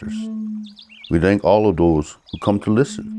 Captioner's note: birds twittering distantly; wind instrument blowing gently